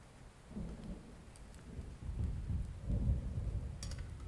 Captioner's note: thunder rolling